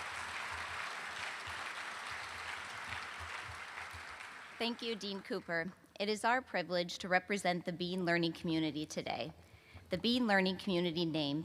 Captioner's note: applause